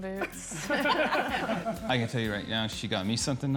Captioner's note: everyone laughs